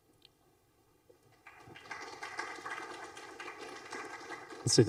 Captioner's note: applause